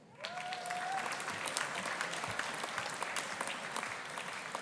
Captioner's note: audience applauding